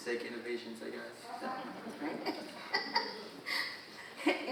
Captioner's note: all laughing